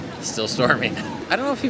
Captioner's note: thunder rolls